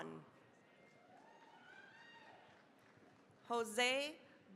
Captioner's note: cheering, applause